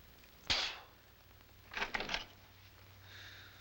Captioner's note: spitting